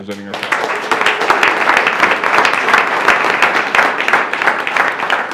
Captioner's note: attendees applauding